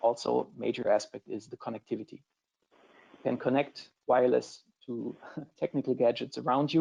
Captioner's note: laughs